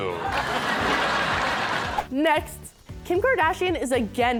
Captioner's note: laughter